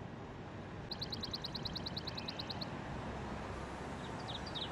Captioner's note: birds chirping